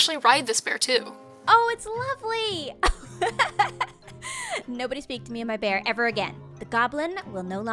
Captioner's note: laughs